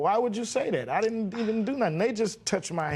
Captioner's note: scoffs